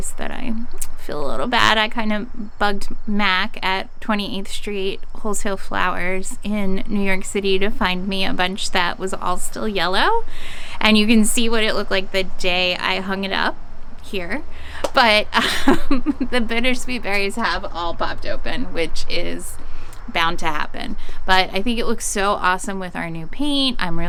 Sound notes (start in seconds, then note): 15.3 laughing